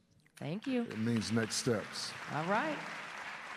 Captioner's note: applause